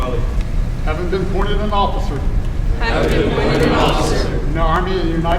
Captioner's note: commissionees repeat